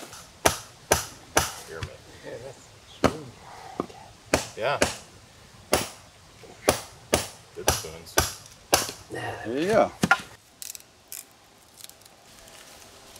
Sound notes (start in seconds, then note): 1.6 background talking